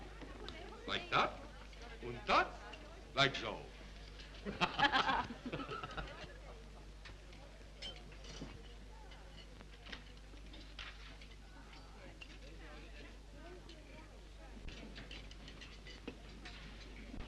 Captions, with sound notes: - Like that, unt that. Like so. (both laugh)